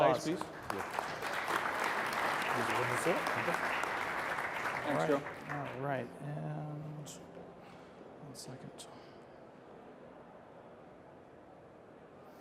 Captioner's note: applause